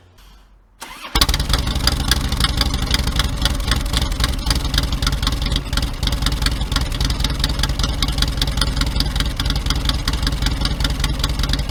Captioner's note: engine running, exhaust noise